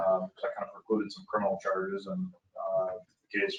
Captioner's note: speaking faintly